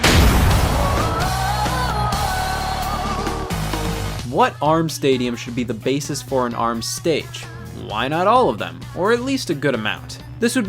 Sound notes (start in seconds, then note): 0.0 object smashes; 0.4 crowd cheers; 2.5 energetic music